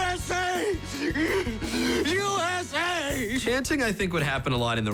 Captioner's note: crying